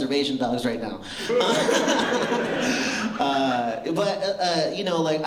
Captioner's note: laughter